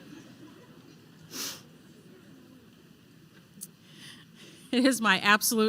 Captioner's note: laughter